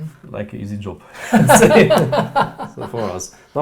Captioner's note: laughing